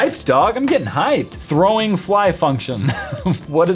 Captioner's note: laugh